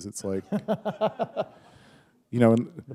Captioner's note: chuckle